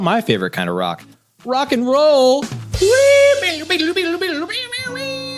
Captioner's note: laughs